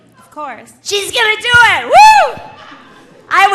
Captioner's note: cheers